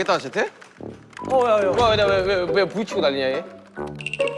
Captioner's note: Ruido sordo